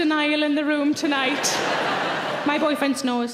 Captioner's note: audience laughing